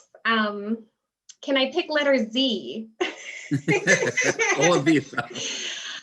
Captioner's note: both laugh